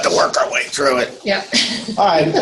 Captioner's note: chuckles